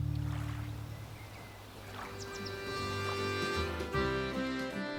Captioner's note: water splashing; bird chirping